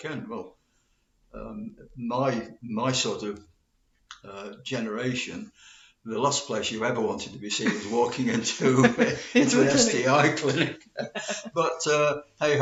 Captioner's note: laughs